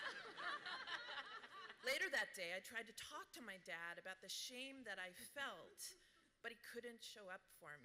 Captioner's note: laughter